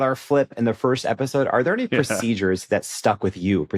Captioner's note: chuckles